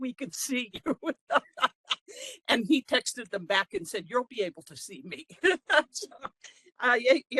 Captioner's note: laughing